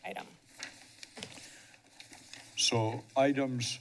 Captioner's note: papers rustling